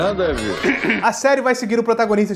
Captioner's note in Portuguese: Mike pigarreia